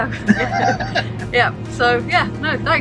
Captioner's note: laughs